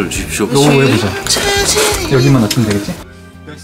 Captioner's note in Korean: 대화소리